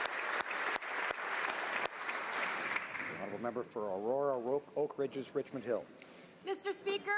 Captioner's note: applause